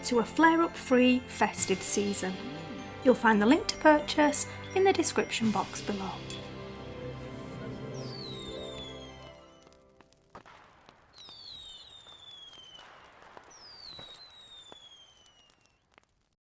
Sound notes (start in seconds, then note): 7.0 fireworks shooting and exploding log fire crackling